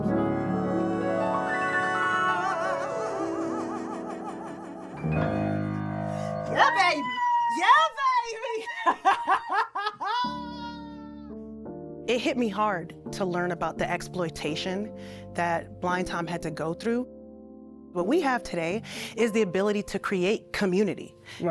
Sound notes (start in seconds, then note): 6.5 screams; 8.4 laughter